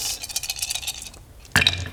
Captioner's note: optimistic rattle